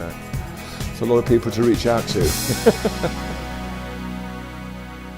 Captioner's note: laughs